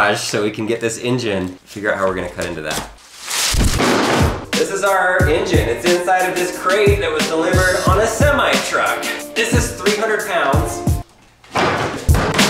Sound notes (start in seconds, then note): 3.2 paper shuffles; 11.6 hammer banging loudly